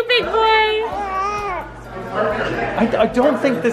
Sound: gurgles

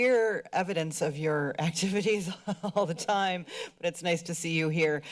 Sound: chuckles

